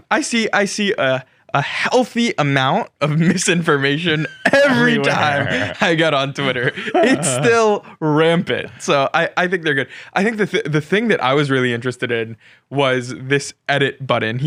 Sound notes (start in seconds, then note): 5.9 both laugh